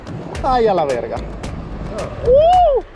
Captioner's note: speaking Spanish